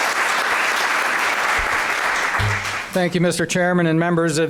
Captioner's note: applause